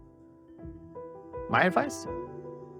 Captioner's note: voiceover